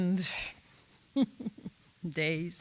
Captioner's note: laughs